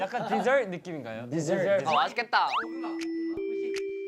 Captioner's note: excited